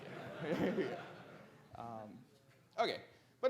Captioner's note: audience laughs